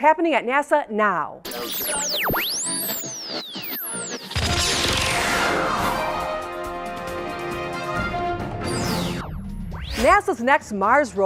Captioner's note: sound Effects